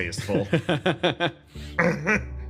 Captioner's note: laugh